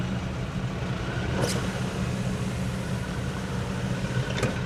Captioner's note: window rolls up